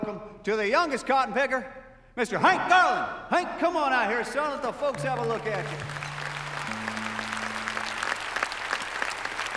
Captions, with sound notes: to the youngest cotton picker, Mr. Hank Garland. Hank, come on out here, son. Let the folks have a look at you. (audience applauding) (tuning strings)